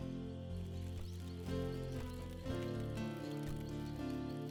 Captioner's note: fire crackles